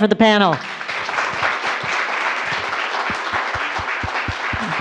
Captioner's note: audience applauds